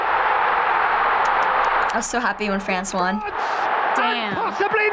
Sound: claps

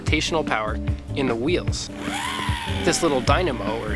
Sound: whirring

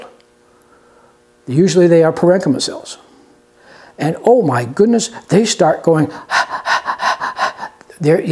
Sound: panting sounds

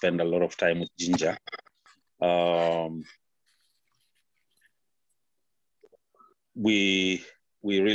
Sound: silence

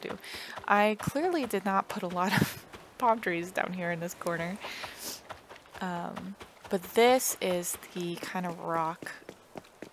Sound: laugh

